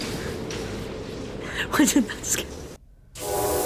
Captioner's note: laughs; loud horn noise